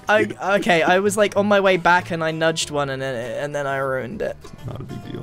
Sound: stammers

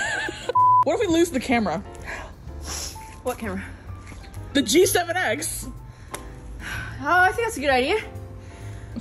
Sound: laughs; breathlessly

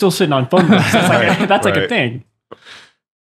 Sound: laughing

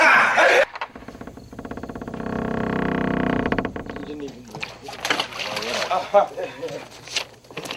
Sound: laughs; wood door swings open

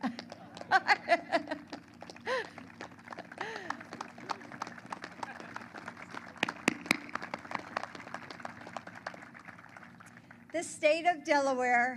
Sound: applause

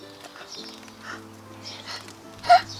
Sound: gasping

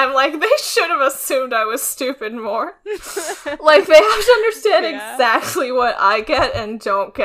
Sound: laughs

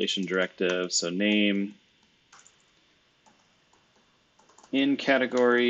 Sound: computer keyboard clicking

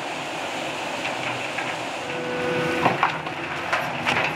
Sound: engine rumbling

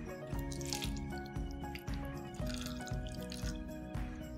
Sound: water pouring

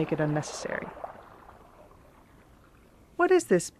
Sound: the sound of rushing water intensifies

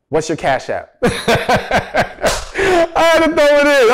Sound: laughs

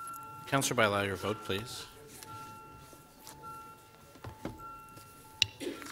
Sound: beeping

